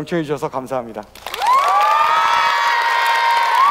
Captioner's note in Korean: 박수와 환호